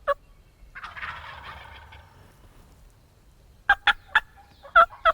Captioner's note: turkeys gobbling